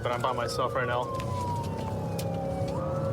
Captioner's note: siren blaring